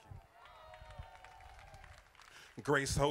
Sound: crowd applauding

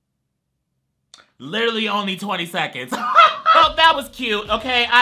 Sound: laughs

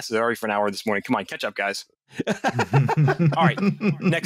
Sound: laughter

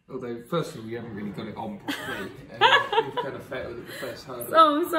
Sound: laughing

